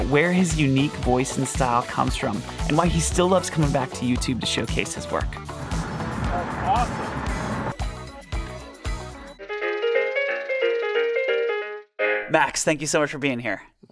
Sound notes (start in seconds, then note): 5.4 car engine rumbling; 7.5 upbeat music; 9.5 bright music